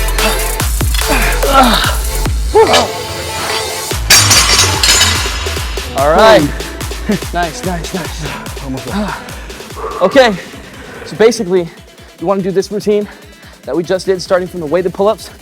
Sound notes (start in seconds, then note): 0.8 both men grunting; 3.3 weights clatter